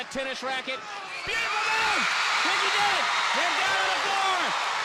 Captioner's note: crowd cheering